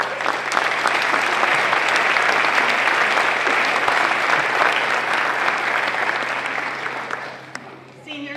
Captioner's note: applause